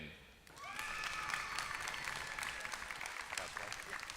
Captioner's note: applause